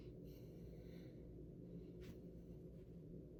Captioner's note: breathing